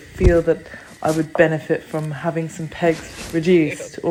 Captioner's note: scratch on camera